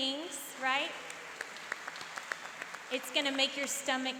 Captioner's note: applauding